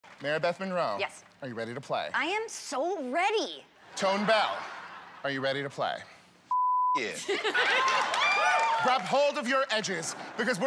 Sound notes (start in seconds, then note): 4.0 laughter; 7.5 cheers and applause